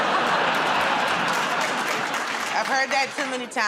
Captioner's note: laughter